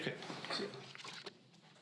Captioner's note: paper rustling